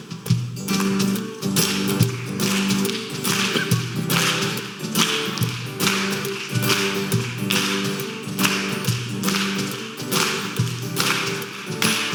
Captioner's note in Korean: 간주 및 박수